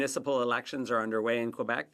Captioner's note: speaking French